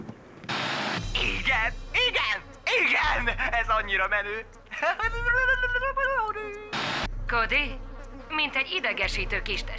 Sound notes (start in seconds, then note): 4.6 imitates guitar riff